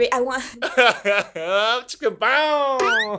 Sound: laughs

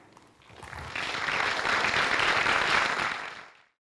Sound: applause

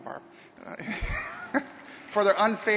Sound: laughter and applause

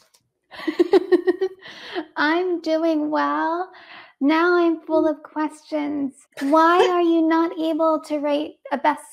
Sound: laughs

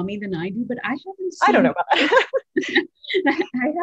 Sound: laugh

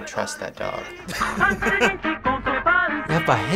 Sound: giggling

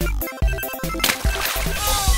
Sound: splash

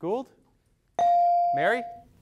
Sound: device dings

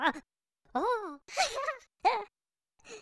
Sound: giggling

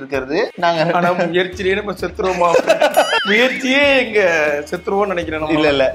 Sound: laughs

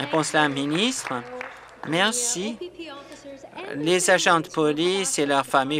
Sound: applause

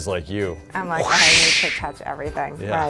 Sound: air whooshing

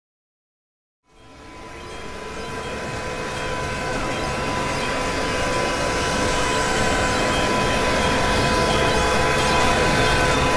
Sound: sound of twister

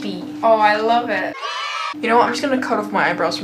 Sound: children cheering

